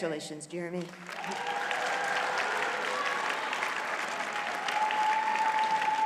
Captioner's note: audience cheers and applauds